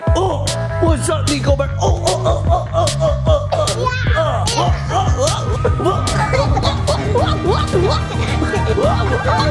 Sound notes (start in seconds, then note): 4.0 upbeat music; 4.2 grunts